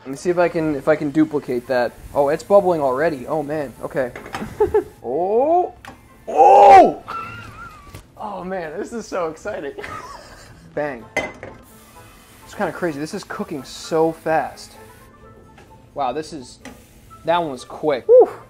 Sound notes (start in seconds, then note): 9.8 laughs